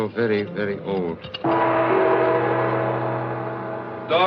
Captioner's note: gong Resounds